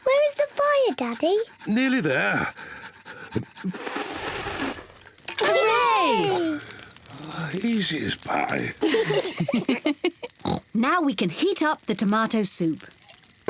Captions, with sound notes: -Where is the fire, Daddy? -Nearly there. (BLOWS AIR) (ALL CHEER) -Oh, easy as pie. -(ALL LAUGH) (OINKS) Now we can heat up the tomato soup.